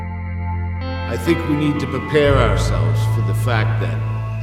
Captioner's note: voice-over